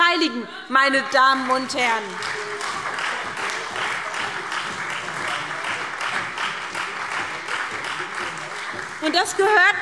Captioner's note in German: Beifall SPD und Freie Demokraten